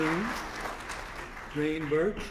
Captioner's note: applause